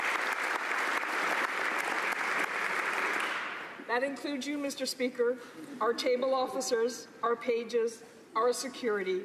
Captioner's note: applause